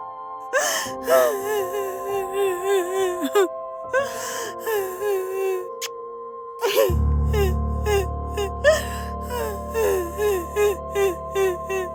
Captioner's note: crying